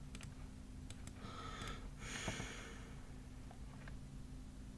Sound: sighs

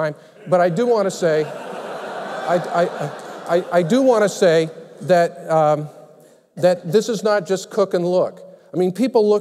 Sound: laughter

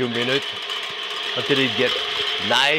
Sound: machine whirring

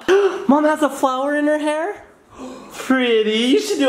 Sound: gasps

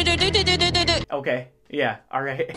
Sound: mimicking the music

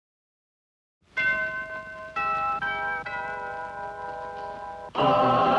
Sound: doorbell ringing

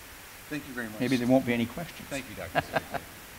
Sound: laughs

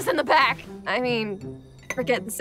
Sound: plate clinks

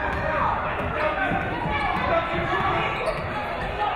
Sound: none

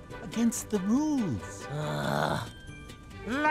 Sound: groaning

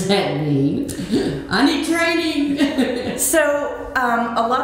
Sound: laughing

